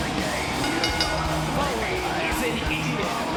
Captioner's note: bell rings